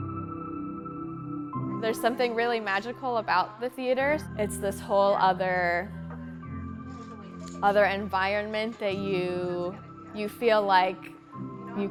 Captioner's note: hopeful music; background talking